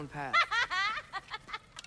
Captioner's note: laughs